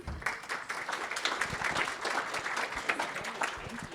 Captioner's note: audience applauding